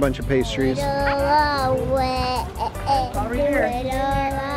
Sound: cooing

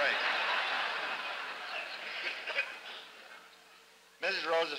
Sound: laughter

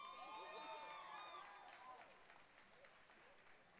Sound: applause

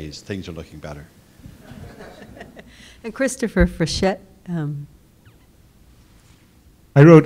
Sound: laugh

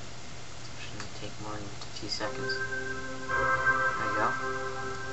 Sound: start-up sound

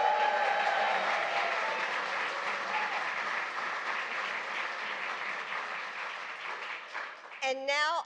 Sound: applause

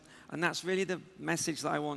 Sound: none

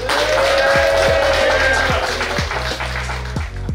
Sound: clapping & Cheering

